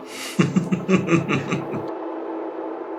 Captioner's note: person laughing; upbeat music